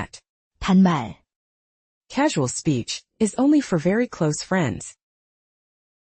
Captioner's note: casual speech